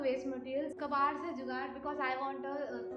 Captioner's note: in foreign language